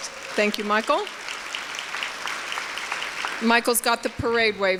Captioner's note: applause